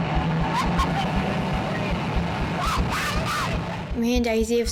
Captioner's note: screams